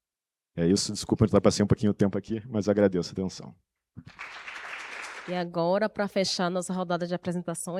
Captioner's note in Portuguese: aplausos